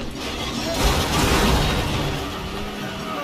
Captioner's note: car crashing noises